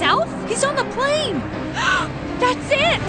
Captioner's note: gasp